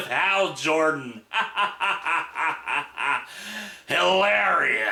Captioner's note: even more sarcastic laughter